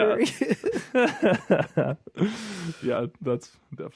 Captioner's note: laughing